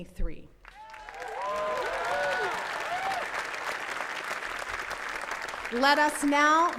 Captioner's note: attendees cheering and clapping